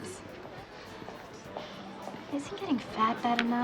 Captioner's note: sighs